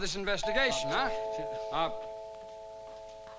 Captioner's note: doorbell ringing